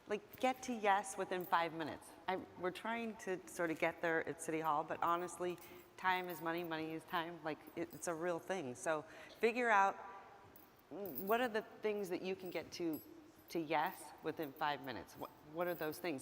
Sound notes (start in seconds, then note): none